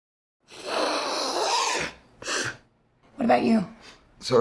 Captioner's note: snorting